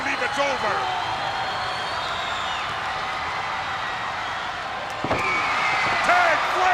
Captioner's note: spectators cheering and applauding